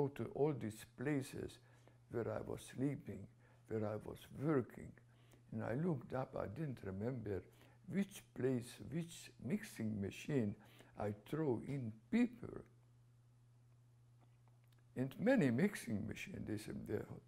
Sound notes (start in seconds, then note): 13.0 pauses for 3 seconds